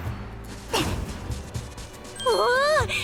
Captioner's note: grunt